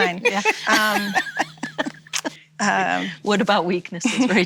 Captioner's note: laughing